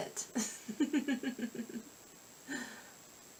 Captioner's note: giggle